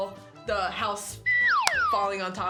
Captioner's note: slide whistle